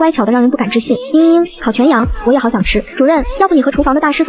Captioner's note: sob